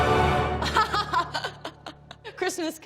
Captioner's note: laughs